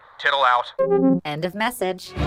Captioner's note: intermission music resumes; transmission-end noise